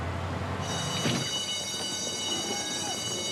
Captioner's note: bell rings